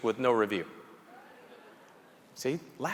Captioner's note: audience members chuckling